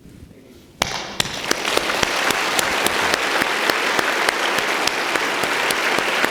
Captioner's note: audience applauding